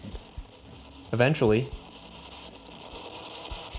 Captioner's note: static